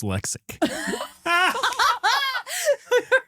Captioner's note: both Laughing